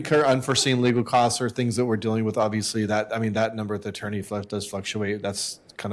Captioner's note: laughter